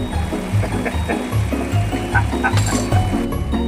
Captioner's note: laughter